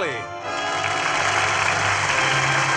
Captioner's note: audience applauding